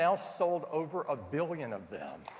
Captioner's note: applause